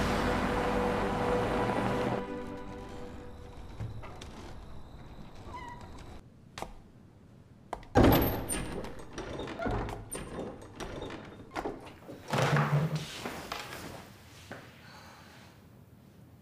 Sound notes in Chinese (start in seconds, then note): 7.9 推門聲